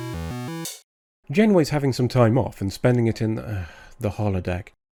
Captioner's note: sigh